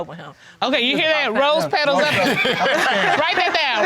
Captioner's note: audience laughing